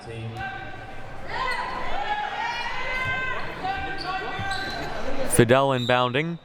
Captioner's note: audience chattering and yelling